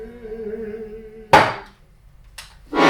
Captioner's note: thud